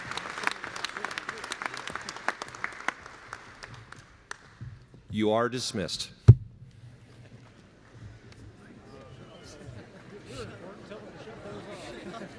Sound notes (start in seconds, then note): 0.0 applause